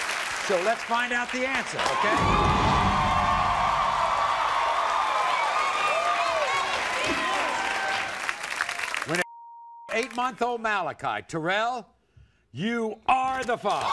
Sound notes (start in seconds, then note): 1.4 audience cheers